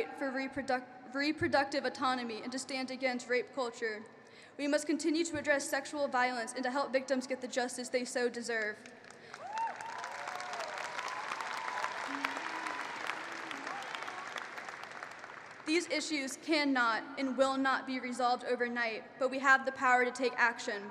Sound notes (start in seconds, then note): 11.8 applause